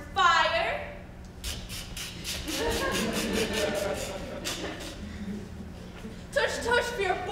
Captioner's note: Grumio clicking tongue; audience laughs